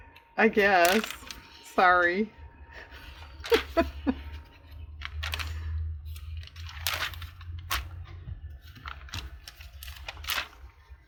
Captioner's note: laughs